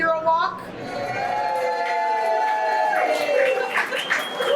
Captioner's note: audience cheering